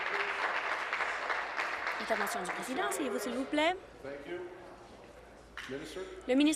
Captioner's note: applause